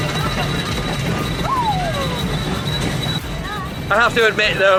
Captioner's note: ride wheels creaking